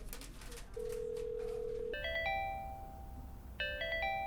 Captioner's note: phones ringing